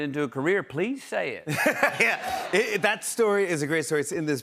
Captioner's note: laughs